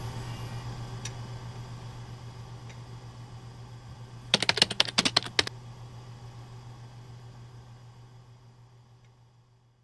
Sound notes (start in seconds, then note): 4.3 keyboard clacking